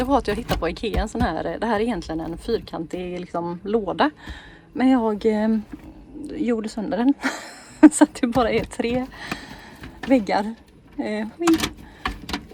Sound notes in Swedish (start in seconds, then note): 7.2 skratt